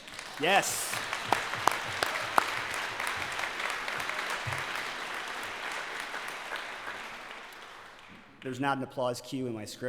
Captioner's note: applause